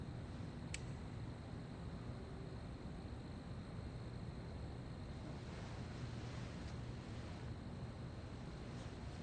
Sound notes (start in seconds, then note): 0.6 light clicks; 3.8 crickets stridulate